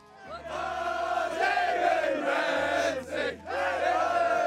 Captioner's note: players chanting